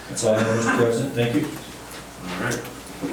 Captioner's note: coughing drowns out speaking